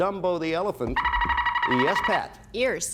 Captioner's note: buzzer sounds